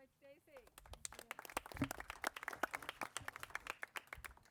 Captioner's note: crowd applauding